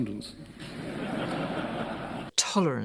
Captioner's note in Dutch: publiek lacht